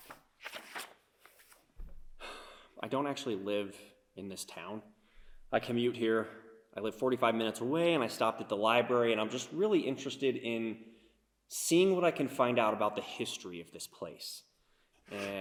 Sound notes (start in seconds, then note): 2.2 sighs